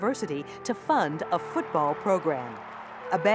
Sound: spectators cheering

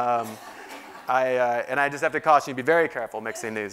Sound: laugh

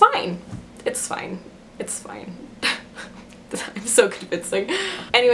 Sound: laughs

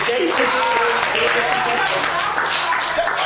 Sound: crowd claps

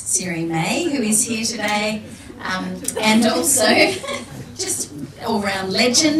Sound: laughs

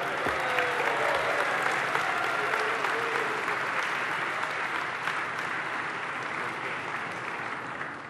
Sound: applause

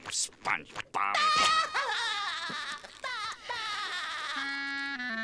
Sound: SpongeBob laughing

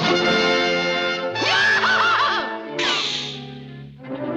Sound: screams

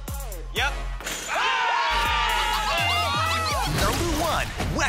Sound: yelling

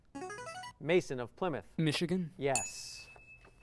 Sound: ding

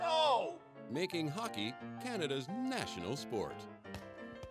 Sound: voiceover

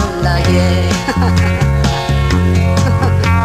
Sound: gigling

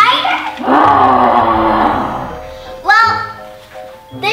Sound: growling

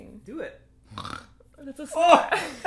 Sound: snorts

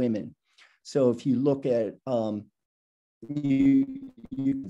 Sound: audio blurs

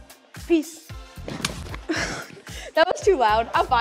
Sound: thumping on the ground

